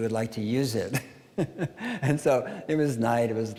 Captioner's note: laughing